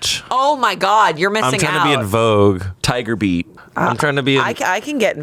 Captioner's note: none